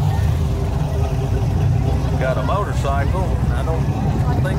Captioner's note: revving continues